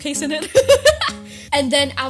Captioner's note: laughs